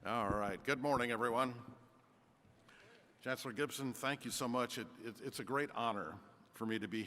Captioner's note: none